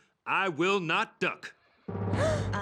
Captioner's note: gasps